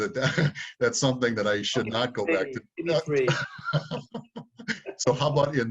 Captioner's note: laughs